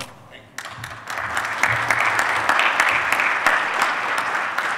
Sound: audience applauding

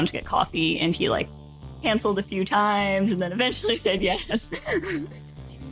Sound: laughs

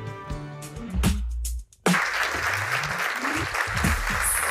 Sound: applause

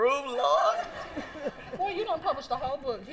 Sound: laughter

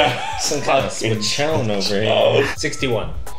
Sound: laughing

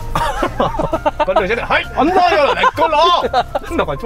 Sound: imitating a Japanese man

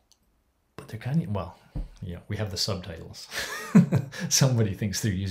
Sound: laughs

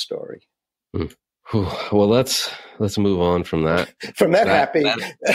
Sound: sighs; laughs

